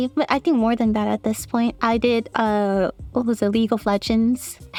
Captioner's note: none